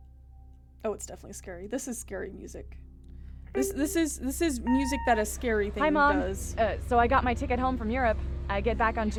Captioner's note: message Machine Beep